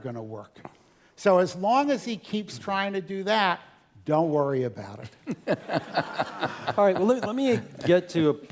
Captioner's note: laugh